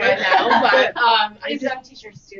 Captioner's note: laughter